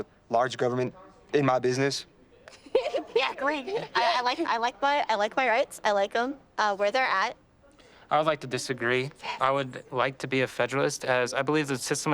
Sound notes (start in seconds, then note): 2.4 laughs